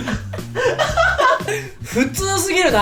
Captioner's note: laughs